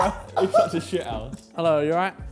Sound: laughing

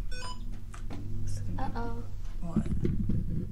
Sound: phone beeps

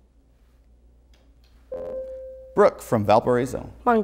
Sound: buzzer

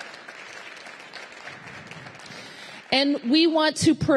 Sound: applause

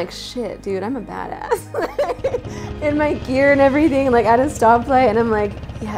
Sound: laugh

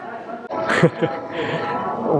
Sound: chuckles

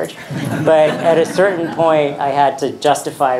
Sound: audience laughing

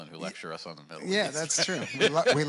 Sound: laughs

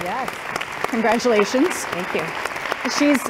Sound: applause

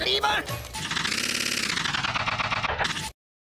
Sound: lever makes noises like a car starter failing

